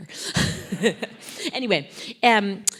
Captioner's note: laugh